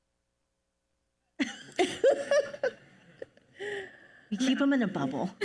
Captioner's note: panelists laugh